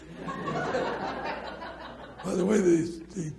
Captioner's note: audience laughs